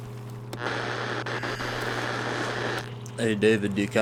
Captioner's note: radio static